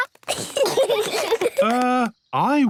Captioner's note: giggling